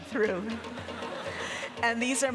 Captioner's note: audience laughing